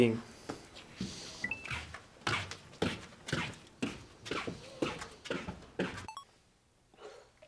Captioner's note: shuffling along